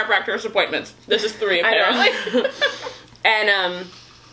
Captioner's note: laughs